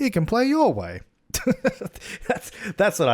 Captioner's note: laughs